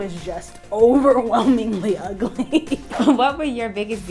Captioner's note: laughs